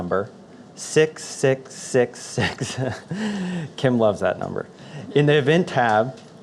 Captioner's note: laughs